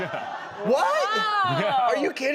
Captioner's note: audience laughing